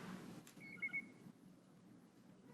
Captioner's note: bird chirps